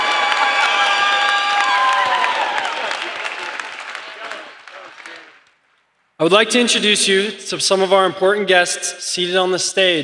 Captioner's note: applause